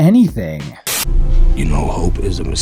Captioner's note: TV static